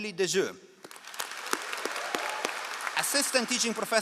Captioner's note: all applauding